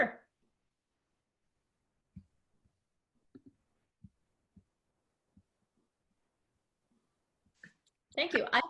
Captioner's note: silence